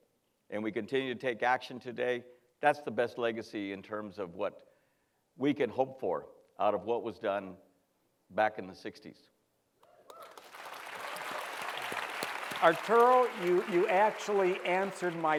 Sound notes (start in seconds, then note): 10.0 cheer; 10.1 applause